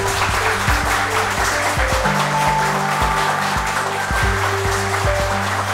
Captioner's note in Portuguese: aplausos